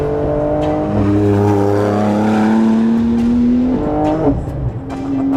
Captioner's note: car engine roaring